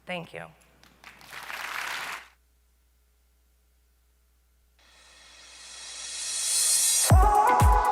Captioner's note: applause